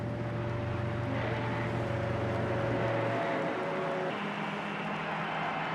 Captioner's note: ship whistle blaring; passengers cheering